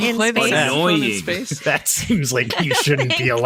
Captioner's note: laughing